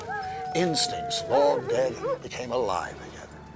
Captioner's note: dogs howling